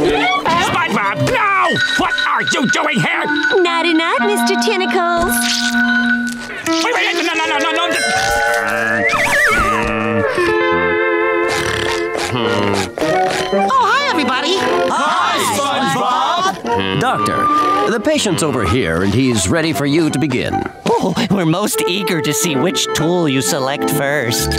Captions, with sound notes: SpongeBob, no! What are you doing here? Nighty night Mr. Tentacles. Wait no no no! [snoring] Oh hi everybody. Hi SpongeBob! Doctor, the patient's over here, he's ready for you to begin. We're most eager to see which tool you select first.